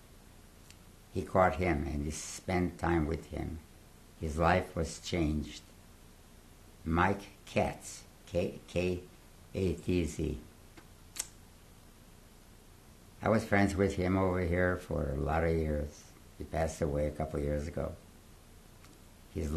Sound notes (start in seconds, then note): 9.4 pauses for 3 seconds